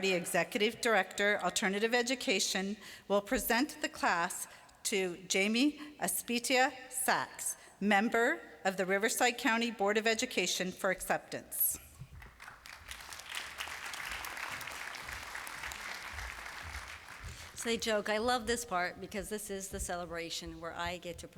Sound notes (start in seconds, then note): 12.1 applause